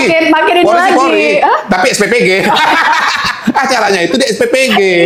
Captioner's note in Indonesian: tertawa